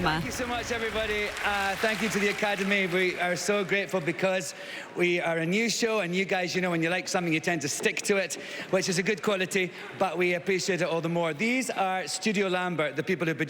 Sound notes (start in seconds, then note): 3.5 applause